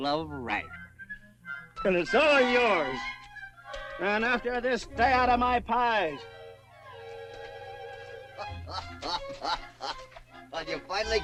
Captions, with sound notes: And it's all yours! And after this, stay out of my pies! [ HOPPY GUFFAWS ] You finally got your pie, uh?